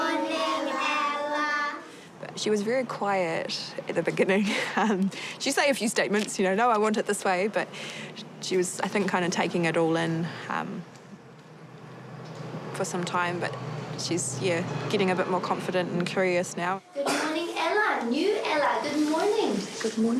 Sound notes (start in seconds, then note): 7.2 chuckles